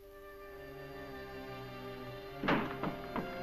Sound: knocking

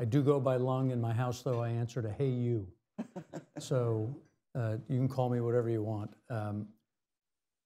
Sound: laughter

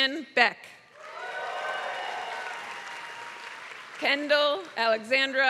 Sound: applause

